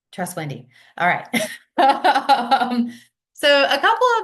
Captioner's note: laughs